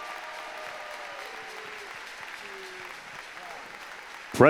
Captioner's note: applause